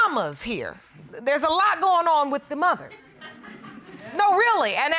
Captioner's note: laughter